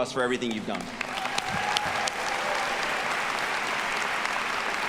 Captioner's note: audience applauding